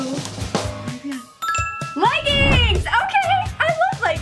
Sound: ding

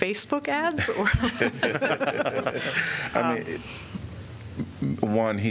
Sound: laughter

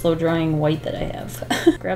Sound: laughs

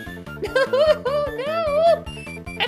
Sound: wailing

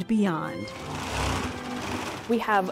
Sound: gears rasping

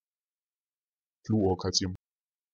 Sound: fast Pronunciation

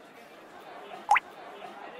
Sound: drip

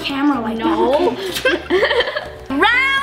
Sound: laughs

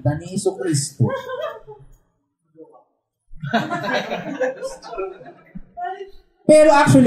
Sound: laughter

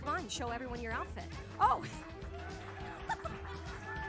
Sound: laughter

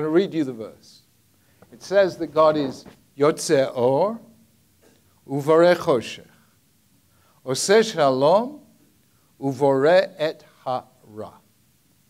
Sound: speaking in Hebrew

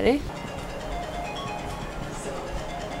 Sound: phone sound

